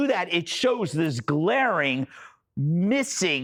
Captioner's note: laughter